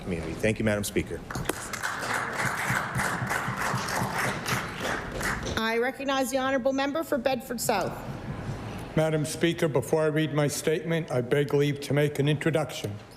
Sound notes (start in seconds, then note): 5.7 applause